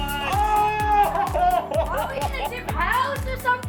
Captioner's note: gasping laughter